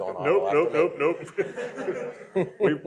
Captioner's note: laughter